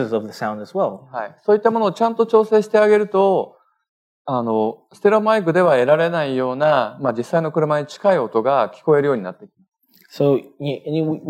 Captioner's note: speaking japanese